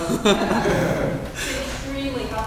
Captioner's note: laughs